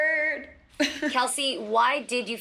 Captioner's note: chuckles